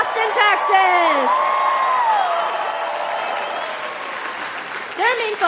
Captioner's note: cheering; applause